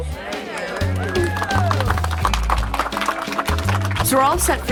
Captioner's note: applause